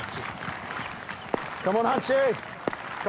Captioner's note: cheering